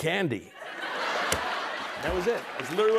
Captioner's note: laughter